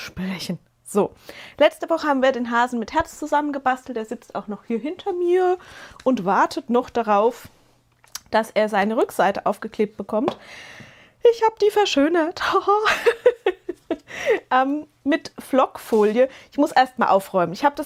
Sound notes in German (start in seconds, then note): 12.8 gelächter